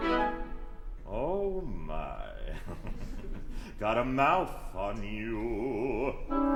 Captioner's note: chuckle